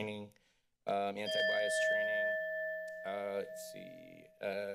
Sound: timer bell rings

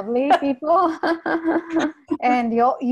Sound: both laugh

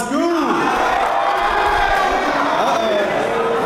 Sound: applause

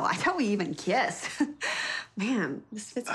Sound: chuckling

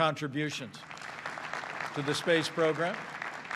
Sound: applause

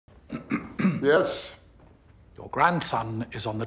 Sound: Bullimore clears throat

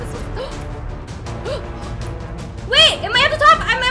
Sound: gasps

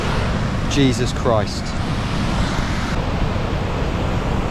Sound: water rushing

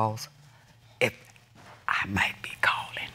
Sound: whispers

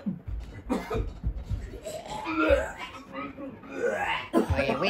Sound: puking

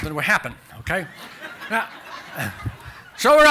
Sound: laughter

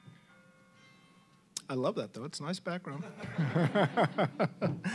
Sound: "bells tolling" ringtone; ringtone stops; all laughing

